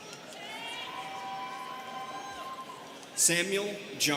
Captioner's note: students cheering